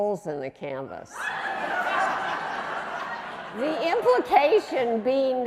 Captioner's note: audience laughing